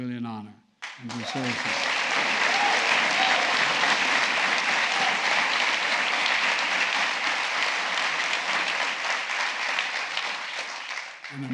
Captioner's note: applause